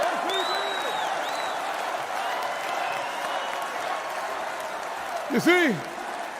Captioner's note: crowd chants "Fight"